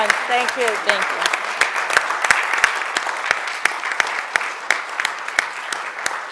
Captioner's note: audience applauding